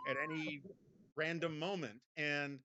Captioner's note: Mara laughs